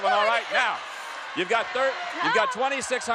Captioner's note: audience yelling